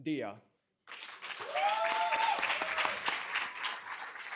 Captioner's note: applause